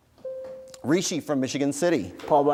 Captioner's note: bell rings